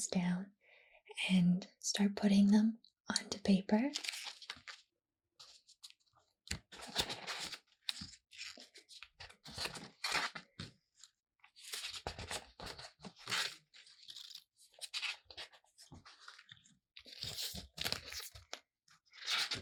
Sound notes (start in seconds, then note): 4.1 pages flipping